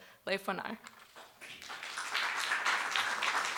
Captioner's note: applause